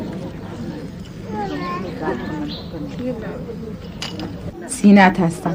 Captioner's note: children chattering; speaking foreign language